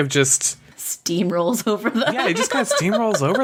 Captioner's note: laughs